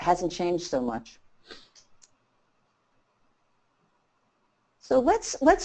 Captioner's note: silence